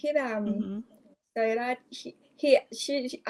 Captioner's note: in Thai